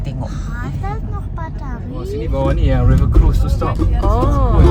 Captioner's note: speaking German